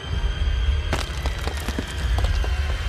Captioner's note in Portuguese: rochas caindo